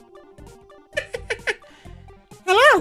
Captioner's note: elmo laugh